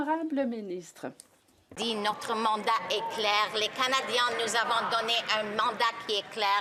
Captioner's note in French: voix de l'interprète